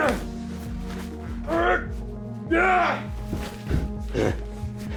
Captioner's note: people groaning